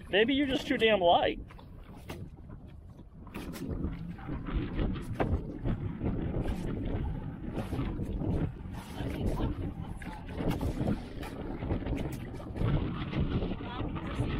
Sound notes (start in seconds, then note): none